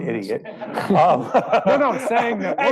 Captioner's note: laughing